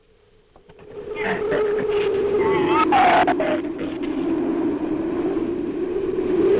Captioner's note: wind howls; shrew snarls